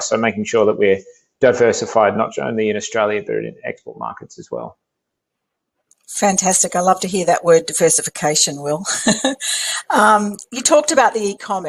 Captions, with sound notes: So making sure that we're diversified, not only in Australia but in export markets as well. Fantastic, I love to hear that word, diversification, Will. (laughing) You talked about e-commerce,